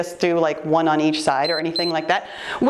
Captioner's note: timer beeps